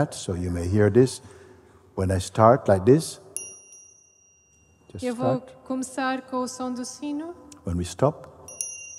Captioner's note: sound of the bell